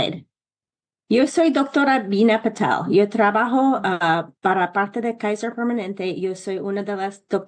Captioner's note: speaks in Spanish